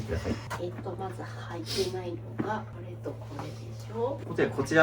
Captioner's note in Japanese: 鼻息